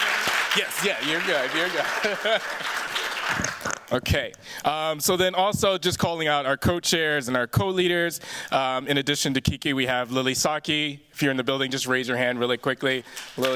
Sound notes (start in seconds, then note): 1.6 chuckles